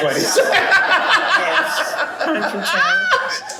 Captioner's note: laughter